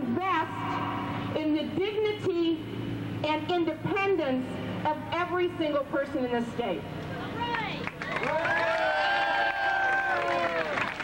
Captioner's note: cheers